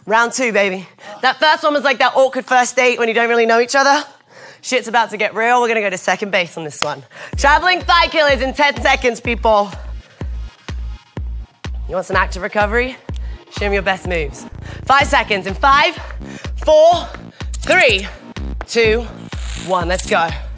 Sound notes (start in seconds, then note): 7.1 clapping; 9.6 energetic music